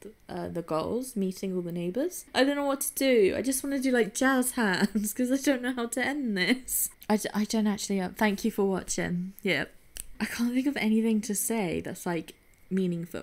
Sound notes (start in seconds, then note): 10.1 clicks fingers